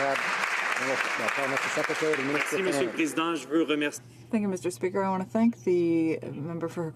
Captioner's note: some Applause